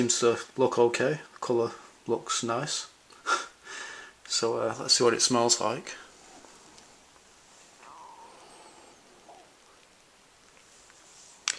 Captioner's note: laughs